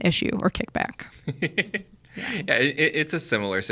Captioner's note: chuckles